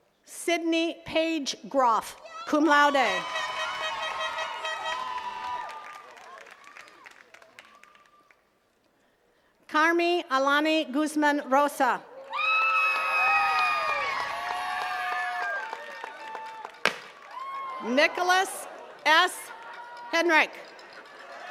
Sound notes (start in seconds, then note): 2.9 attendees cheering and clapping; 12.1 attendees cheering and clapping; 16.8 smoke popper blasts